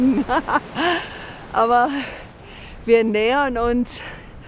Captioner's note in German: Amüsiertes Lachen; schwer atmend